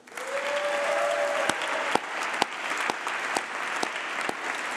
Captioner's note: applause